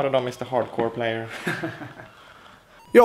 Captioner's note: laughs